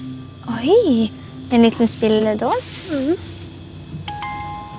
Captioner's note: gasps